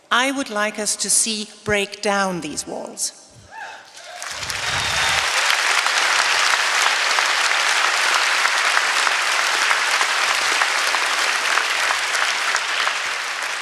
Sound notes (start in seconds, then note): 3.8 applause